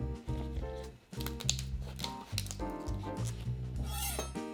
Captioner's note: leaves snapping